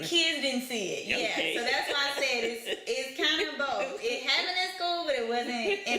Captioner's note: laughter